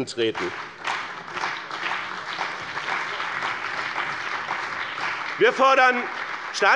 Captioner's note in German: Beifall bei BÜNDNIS 90/DIE GRÜNEN, der CDU, der SPD und der FDP